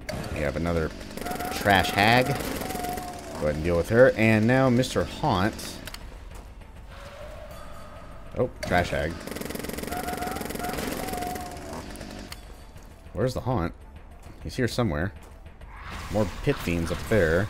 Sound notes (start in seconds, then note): 6.8 howls